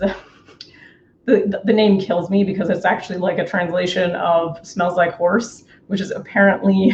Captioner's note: laughs